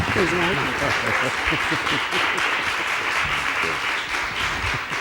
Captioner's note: attendees applauding